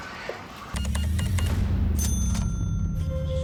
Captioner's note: cash register beeping, dinging